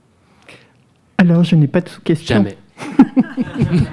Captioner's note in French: rires